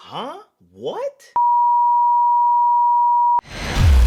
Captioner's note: beep; intense bass beats